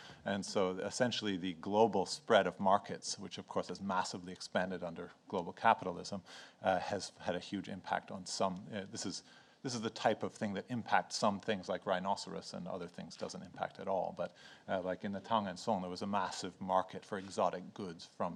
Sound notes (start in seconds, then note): 14.6 speaks in foreign language